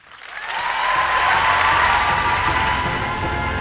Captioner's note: applause and cheers